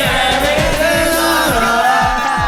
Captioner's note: murmuring together